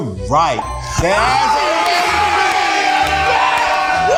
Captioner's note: all yelling